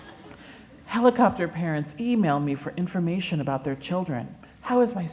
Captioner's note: laughter